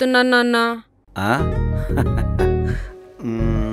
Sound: laughing

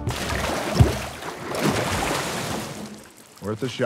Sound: water splashes

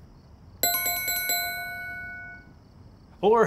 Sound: bells ringing

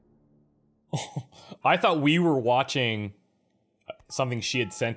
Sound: chuckles

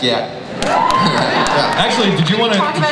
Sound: audience cheers

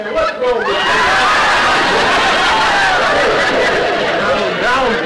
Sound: audience howling

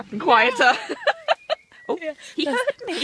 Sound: both laugh

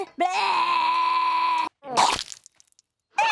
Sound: gagging

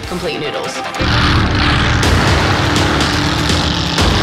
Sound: engine revving

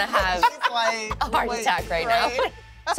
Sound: laughs

